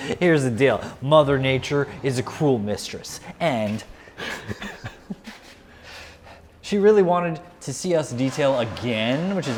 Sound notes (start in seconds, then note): 4.1 chuckles